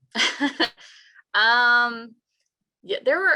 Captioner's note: laughs